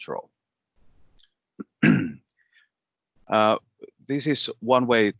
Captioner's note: clears throat